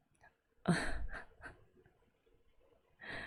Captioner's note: chuckles